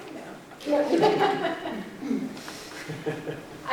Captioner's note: chuckles